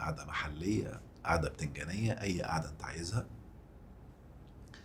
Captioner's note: sarcasm!